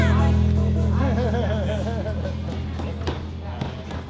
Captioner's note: laughs